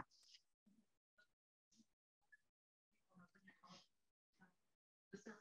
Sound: faintly speaking

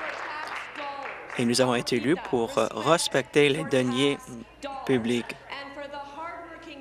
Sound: applause

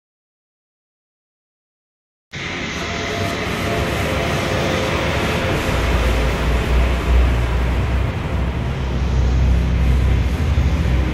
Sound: sound of dark sea

